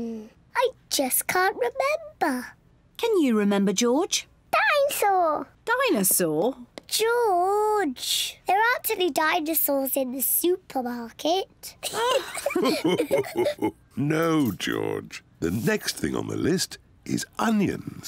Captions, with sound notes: I just can't remember. -Can you remember, George? -Dine-saur! -Dinosaur? -George! There aren't any dinosaurs in the supermarket. (ALL LAUGH) No, George, the next thing on the list is onions.